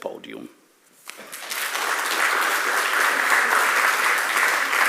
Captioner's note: audience applauding